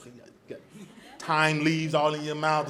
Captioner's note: audience laughs